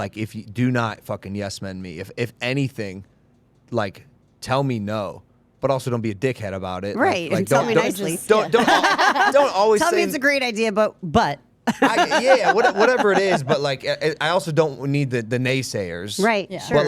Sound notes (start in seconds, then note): 8.3 group laughing